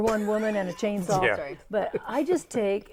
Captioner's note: laughing